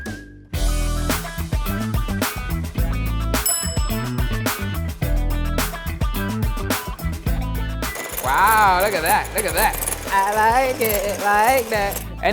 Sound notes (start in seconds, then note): 0.5 funky music; 3.4 chimes